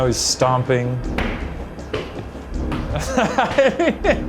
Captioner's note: stomping loudly; laughing